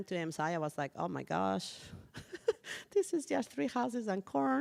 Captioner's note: chuckles